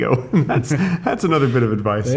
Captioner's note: men laughing